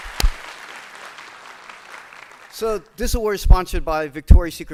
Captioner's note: applause